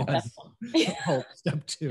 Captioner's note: laughs